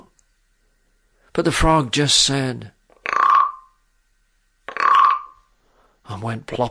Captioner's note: frog sound effect